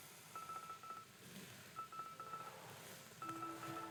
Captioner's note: beeping